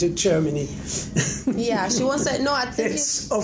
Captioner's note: laughing